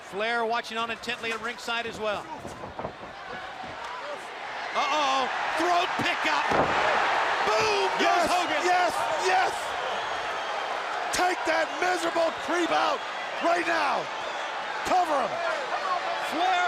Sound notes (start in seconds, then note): 9.4 crowd cheering